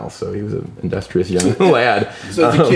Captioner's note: laughs